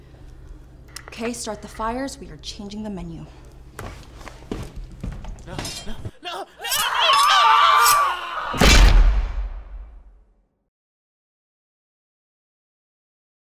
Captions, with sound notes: Okay, start the fires. We are changing the menu. [Screaming]